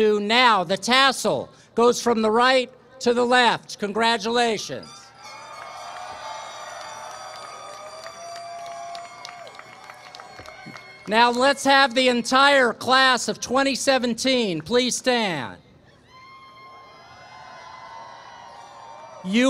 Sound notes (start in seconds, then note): 5.2 applause, cheering